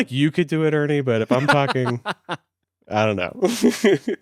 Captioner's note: laughs